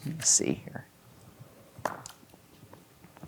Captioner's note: dice rolling